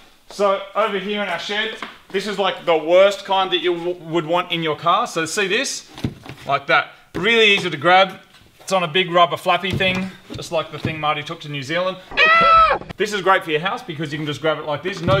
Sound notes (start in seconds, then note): 12.1 yelps